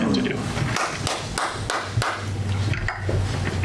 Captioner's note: audience applause